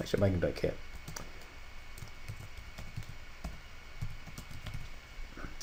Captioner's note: typing Sounds